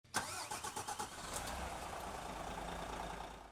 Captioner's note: engine starting